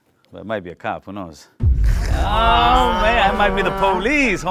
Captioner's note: all groan